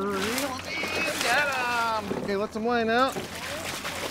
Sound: fish splashing

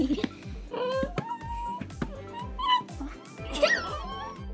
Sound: giggling; Tilly continues to growl and cry; giggling

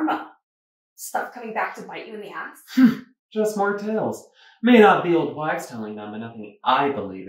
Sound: huffs

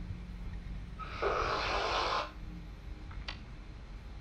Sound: slurps

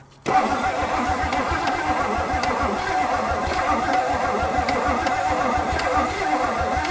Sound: vehicle engine clicking; vehicle engine humming

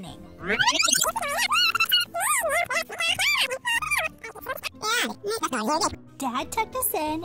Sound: video rewinding

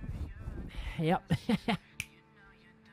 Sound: laugh

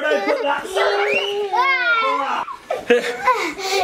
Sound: child screaming; people sighing

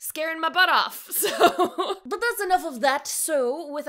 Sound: laughs

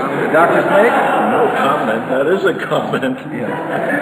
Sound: laughs; audience laughter

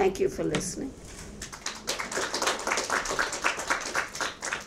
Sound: audience claps

